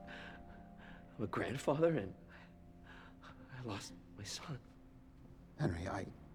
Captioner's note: none